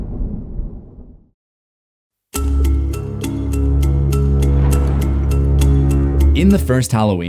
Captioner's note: thunder